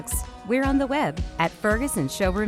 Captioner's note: none